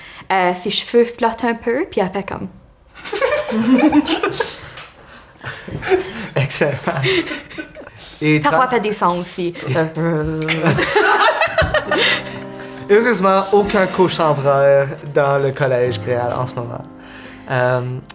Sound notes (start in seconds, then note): 3.0 muffled laughter; 10.1 Émeraude vibrates; 11.1 the group laughs out loud